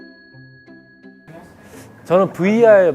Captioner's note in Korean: 쓰읍